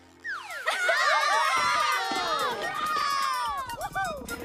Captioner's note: all laughing and cheering